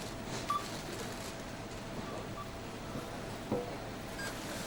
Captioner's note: cash register beeping